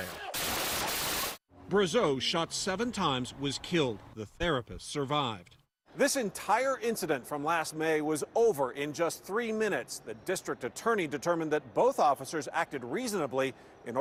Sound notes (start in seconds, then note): 2.1 gunshots